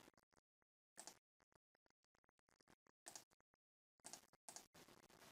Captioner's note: mouse clicking